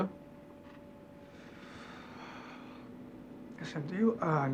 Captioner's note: sighs